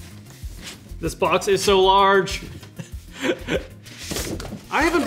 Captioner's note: laughing